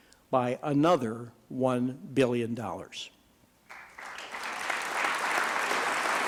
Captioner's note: applause